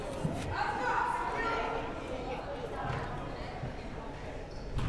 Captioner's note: crowd murmuring